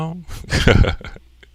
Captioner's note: laughing